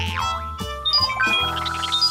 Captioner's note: beeping